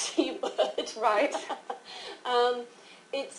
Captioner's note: laughter